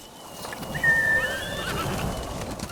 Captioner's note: whistling